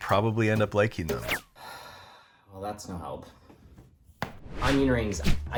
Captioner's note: sighing